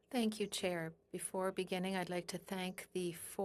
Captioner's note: speaking French